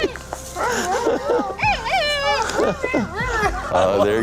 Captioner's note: pandas squeaking; chuckles